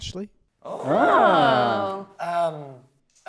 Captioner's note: they ooh